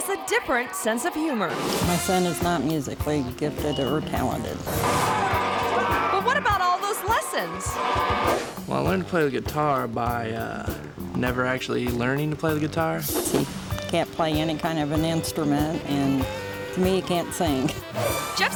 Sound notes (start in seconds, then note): 4.8 screaming; 4.9 blasting rock music